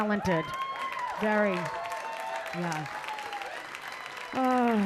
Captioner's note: audience cheering